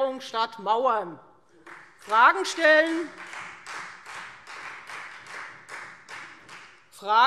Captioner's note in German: Beifall Freie Demokraten und vereinzelt SPD